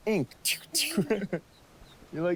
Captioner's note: giggling